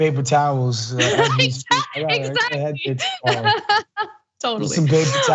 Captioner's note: laugh